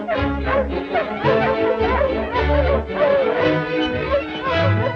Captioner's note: dogs barking